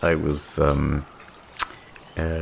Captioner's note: smack lips